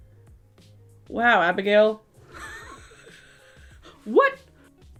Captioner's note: chuckling